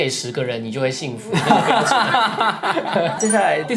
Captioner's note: laughing